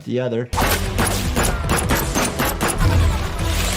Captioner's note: gun shooting